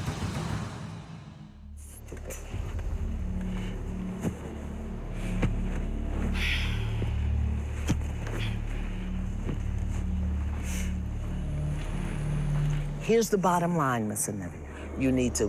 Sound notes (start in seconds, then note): 6.2 sighs